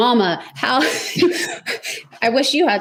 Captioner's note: laughs